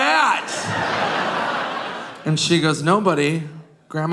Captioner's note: audience laughing